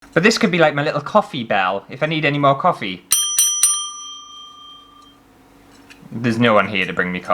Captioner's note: ding